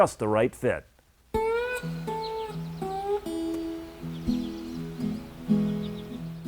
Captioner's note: gentle country music; birds chirping